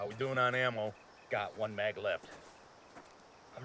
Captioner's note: voiceover